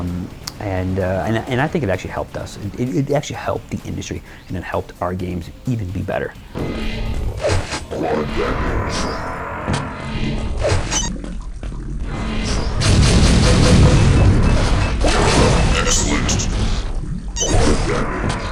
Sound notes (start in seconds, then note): 8.0 warped voices; 12.7 gunshots